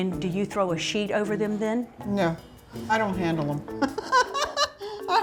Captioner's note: laughing